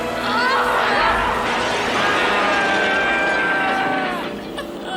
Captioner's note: Bernard screaming